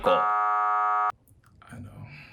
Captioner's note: buzzing sound